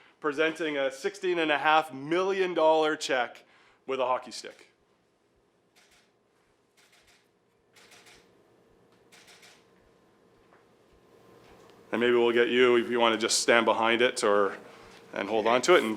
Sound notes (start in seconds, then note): 7.7 camera clicking